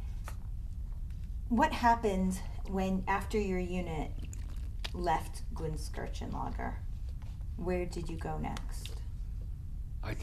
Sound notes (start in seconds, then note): 4.1 drinks